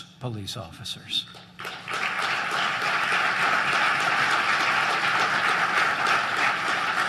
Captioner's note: applause